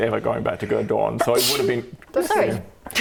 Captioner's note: achoo!